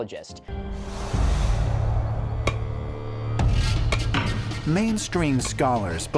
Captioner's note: hammering